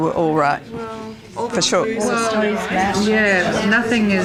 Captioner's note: audience chatter